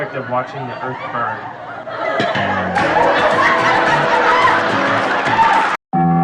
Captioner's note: audience laughter track